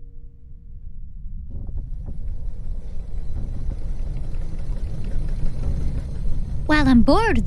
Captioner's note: creaking and whirring